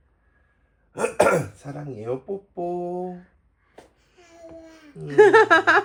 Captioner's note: clears throat dramatically